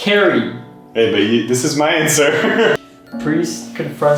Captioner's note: laughs